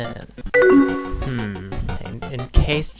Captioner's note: "AOL Instant Messenger" notification sound